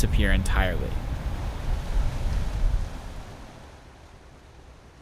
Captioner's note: waves crashing